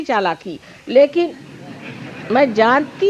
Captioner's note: yogis laugh